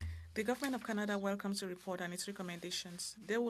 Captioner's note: speaking French